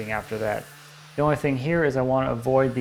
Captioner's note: sander continues quietly buzzing